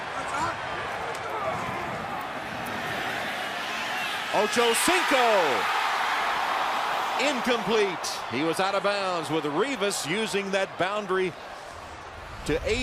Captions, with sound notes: Ochocinco! [cheering] Incomplete. He was out of bounds with Revis using that boundary